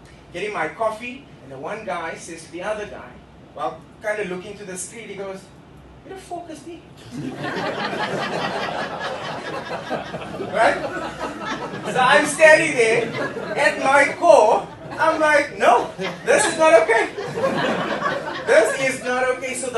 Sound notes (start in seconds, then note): 7.1 laughter